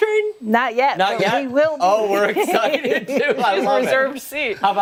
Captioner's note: laughter